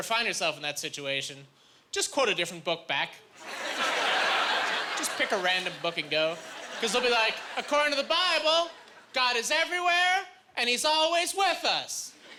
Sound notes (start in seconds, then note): 3.4 laughing